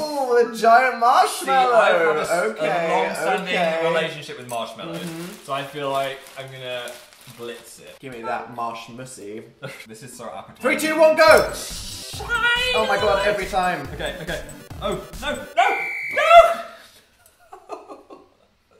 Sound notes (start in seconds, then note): 15.5 whistle of victory; 17.3 laughs